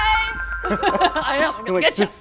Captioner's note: laughing